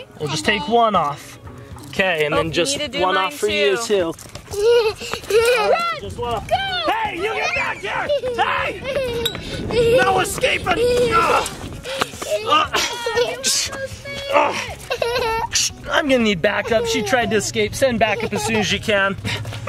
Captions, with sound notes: - we'll just take one off and then just one off for you too. (laughs) - Run, go! - You get back here! No escaping (grunts) I'm gonna need backup. She tried to escape send back up as soon as you can.